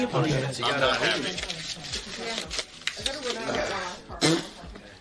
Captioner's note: paper rustling; Ludwig blows raspberry